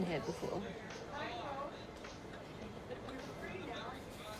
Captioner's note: customers chattering